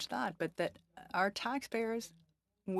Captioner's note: speaking French